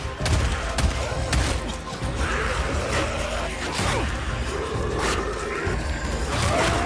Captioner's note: gun blasting; zombies moaning; blows thudding; zombies growling